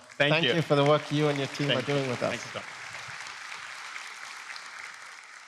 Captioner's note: applause